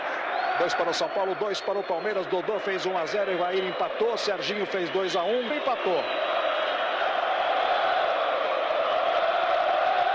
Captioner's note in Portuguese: aplausos; aplausos